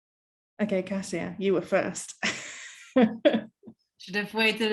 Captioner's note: chuckling